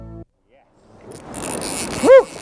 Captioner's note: reel drag